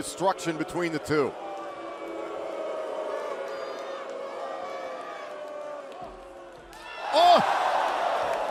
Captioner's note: crowd cheering